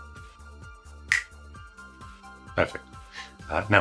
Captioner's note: snaps